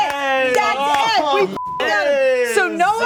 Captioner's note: beep